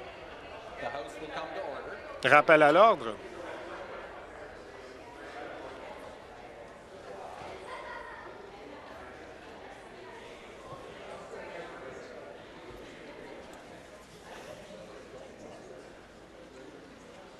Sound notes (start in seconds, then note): 0.5 conversation din